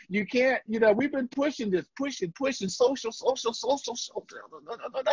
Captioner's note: muttering